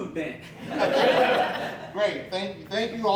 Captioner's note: audience Laughing